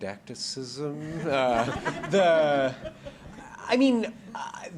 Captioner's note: laughter